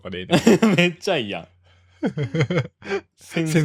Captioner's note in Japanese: 笑い